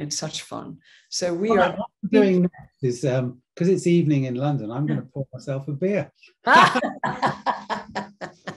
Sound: laugh

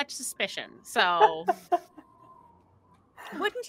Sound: laughing

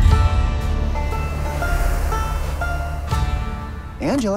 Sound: wind howling

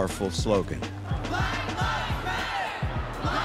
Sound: crowd

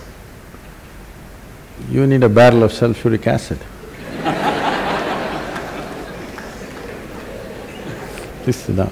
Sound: laughter

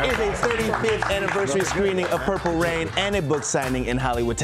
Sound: cheers and applause

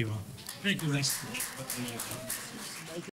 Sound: applause

